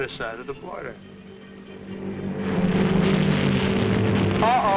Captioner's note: plane droning